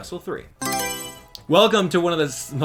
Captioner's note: Mario Selection Sound